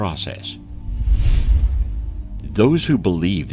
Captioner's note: air whooshing